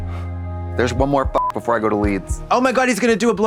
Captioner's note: beep